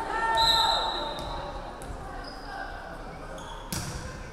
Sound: referee whistling

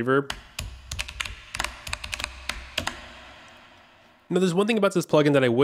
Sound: echo keyboard sounds

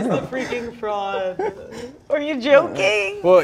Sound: people laughing

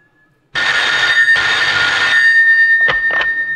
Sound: phone rings

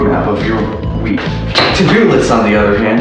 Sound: loud steps

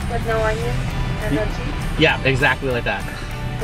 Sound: woman In Speakerphone

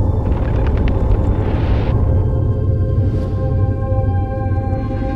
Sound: birds flapping wings and chirping

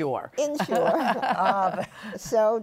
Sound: laughter

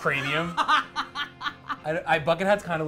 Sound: laughs

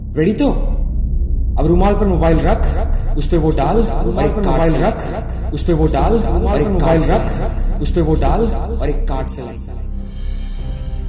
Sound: echo

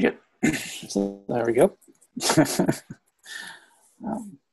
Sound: laughs

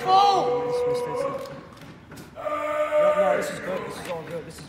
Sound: man chanting and yelling

